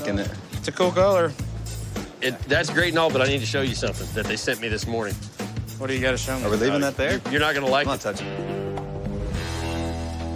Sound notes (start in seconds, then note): none